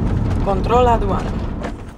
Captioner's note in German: auf Spanisch